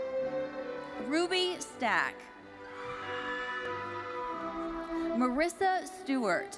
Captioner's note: audience cheering